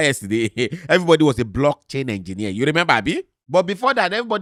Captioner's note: chuckles